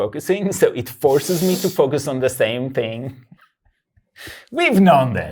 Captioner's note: laughs; laughs